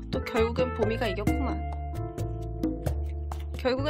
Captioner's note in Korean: 한숨